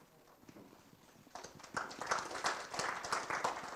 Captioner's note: students claps